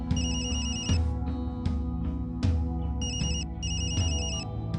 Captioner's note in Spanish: Suena el celular